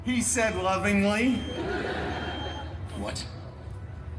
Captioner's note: guests laughing